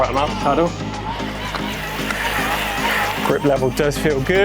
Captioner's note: bike wheels whirring